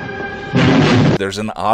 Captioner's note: explosion